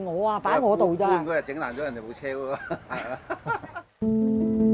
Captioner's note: laughs